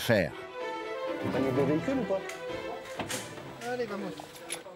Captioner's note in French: audio parlé en français